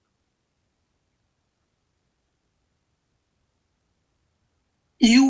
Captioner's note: pauses 4 seconds